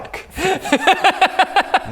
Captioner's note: impressed laugh